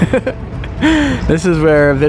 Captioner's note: laughs